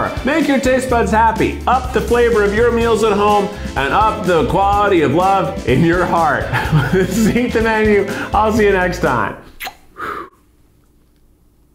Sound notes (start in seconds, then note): 6.4 laughs